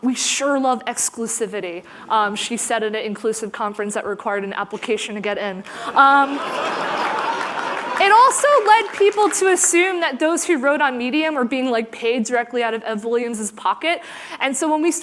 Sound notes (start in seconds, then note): 5.8 laughter